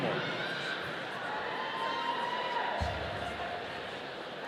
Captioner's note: audience cheering